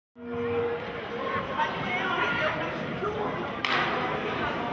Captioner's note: chattering